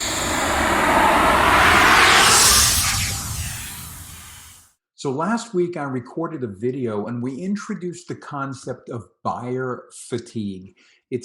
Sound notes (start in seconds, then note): 0.0 air whooshing